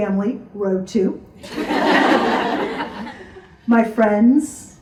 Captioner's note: audience laughs